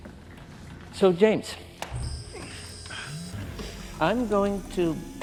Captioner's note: machine whirring